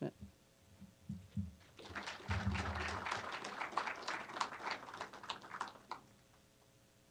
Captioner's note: applause